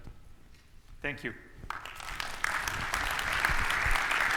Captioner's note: audience claps